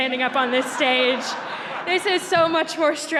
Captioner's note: laughter